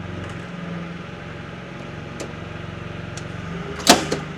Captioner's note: machinery rumbles